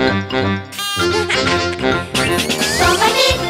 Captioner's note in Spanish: Música alegre; Risas